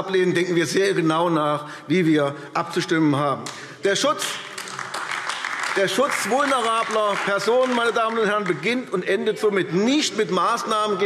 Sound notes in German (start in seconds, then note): 4.2 Beifall AfD